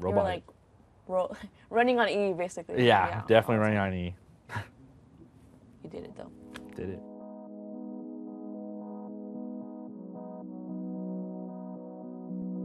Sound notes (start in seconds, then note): 4.5 he laughs; 7.4 gentle music